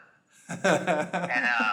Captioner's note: laughing